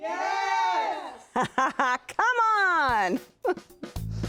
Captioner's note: laughs